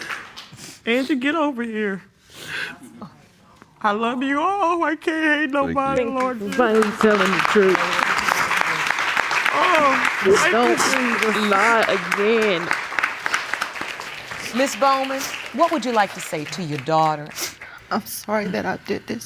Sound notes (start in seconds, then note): 7.2 applause